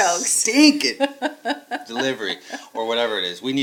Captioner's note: laughing